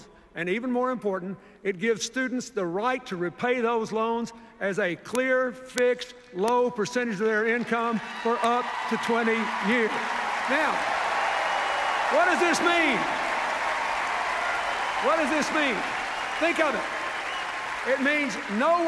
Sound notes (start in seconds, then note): 9.8 cheers, applause